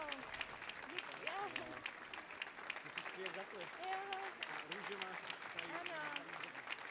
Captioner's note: audience applauding